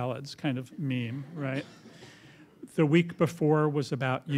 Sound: laughter

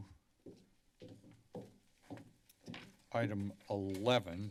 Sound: footsteps

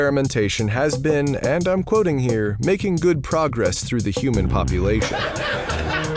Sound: laugh Track

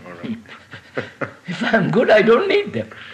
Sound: laughter

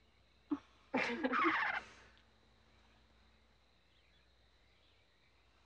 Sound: Freckles cooing

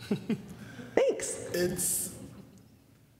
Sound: giggling

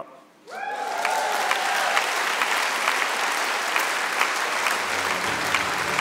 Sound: audience clapping

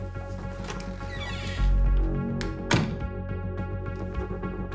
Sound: door creaks; dramatic music

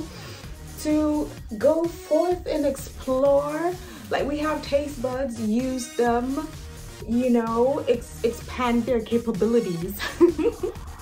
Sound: laughs

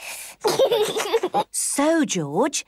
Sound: giggles

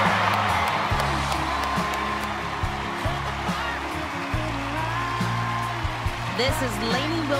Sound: cheers and applause

